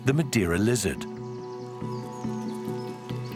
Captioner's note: birds chirping